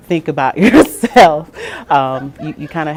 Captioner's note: laughing